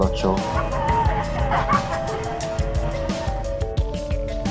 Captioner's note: intense laughter